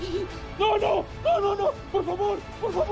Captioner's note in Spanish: Sollozos